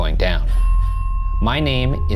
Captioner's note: elevator bell dings